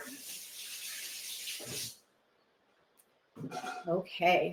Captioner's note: water splashing